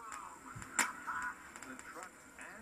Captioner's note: cackles